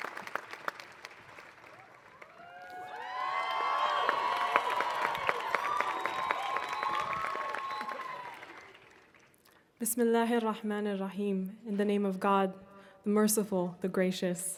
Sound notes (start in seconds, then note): 0.0 applause; 3.3 cheers